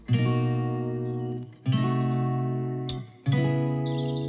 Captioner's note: birds chirping